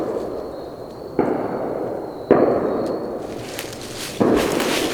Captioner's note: guns banging